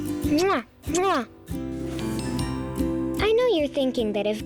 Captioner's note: kissing noises